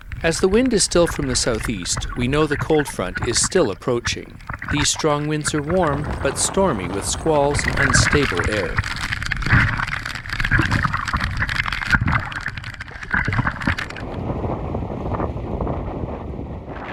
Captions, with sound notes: As the wind is still from the southeast, we know the cold front is still approaching. These strong winds are warm but stormy with squalls and unstable air. (chain clacking) (flags flapping)